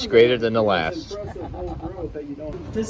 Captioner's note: chuckle